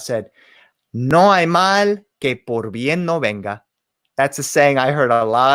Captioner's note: spoken in foreign language